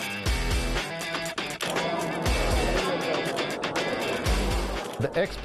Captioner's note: upbeat rock music; indistinct chatter